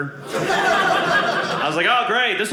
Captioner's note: audience laughing